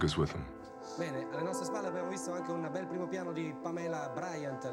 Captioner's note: speaking Italian